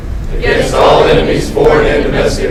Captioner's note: commissionees repeat